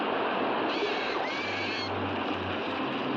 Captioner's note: water crashing; bird squawks; waves crashing